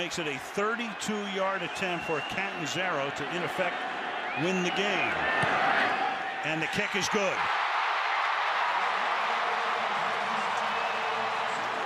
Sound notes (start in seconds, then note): 8.1 cheering